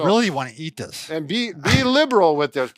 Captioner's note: chuckles